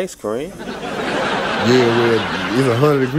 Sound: laughs

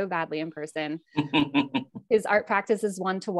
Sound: laughing

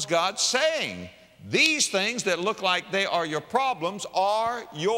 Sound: slap

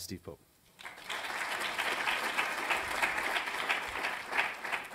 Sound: applause

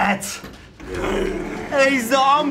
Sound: zombies growl

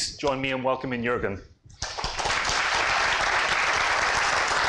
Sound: applause

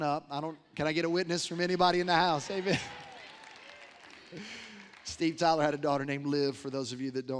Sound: applause

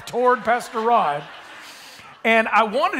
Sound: attendees laughing

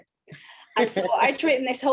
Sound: laughs

